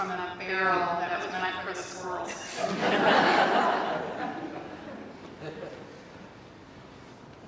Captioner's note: laughter